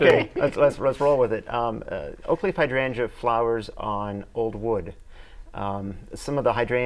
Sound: laughing

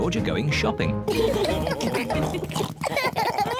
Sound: all laugh

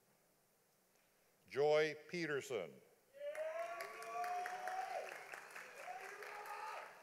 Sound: audience applauding

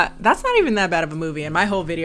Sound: none

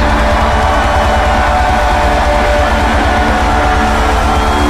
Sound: crowd cheering

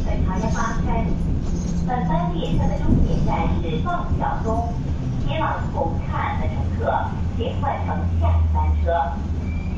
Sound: Cantonese; Mandarin

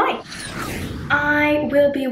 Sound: airplane zooms

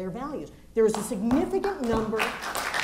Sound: applause

